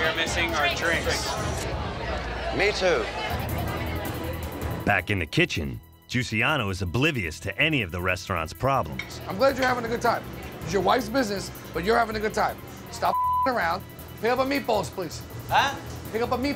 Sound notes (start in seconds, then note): 13.1 beep